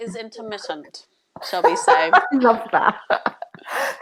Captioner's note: laughs